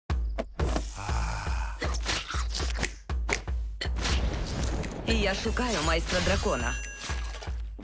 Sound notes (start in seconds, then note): 1.8 snaps fingers; 5.0 thunder rumbles